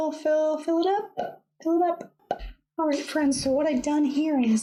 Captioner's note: pop!